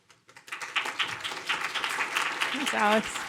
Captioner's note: audience applauding